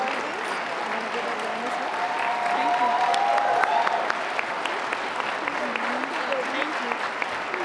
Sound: applause, cheering; applause

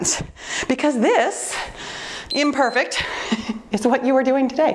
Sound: timer beeps

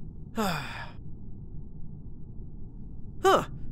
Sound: sigh

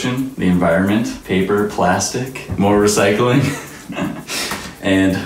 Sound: laughs

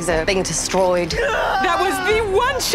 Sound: man screaming

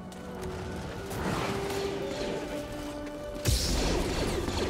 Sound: blaster fire

